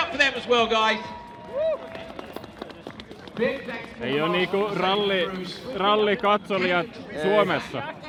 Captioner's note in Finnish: aplodit